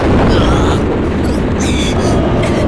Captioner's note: pained groan